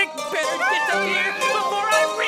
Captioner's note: The Witch screams